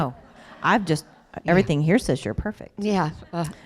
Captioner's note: laughter